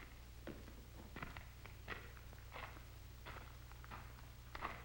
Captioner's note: footsteps approach